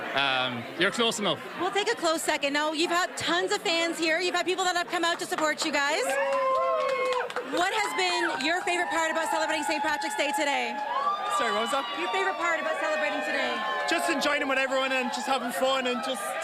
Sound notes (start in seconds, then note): 12.2 applause